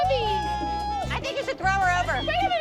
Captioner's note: cheering